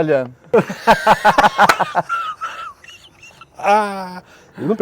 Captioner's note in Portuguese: risos